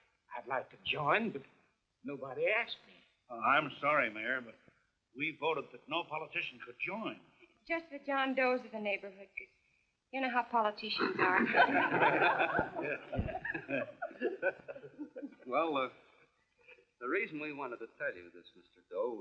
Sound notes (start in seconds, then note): 10.9 laughing